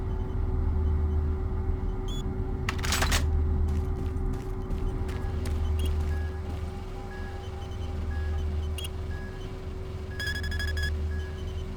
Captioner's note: beeping